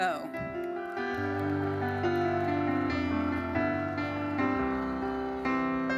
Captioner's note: audience applauding; audience cheering; gentle uplifting music continues